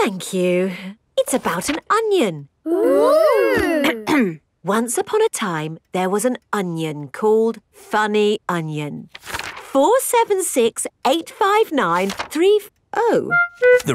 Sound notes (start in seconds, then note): 4.3 clears throat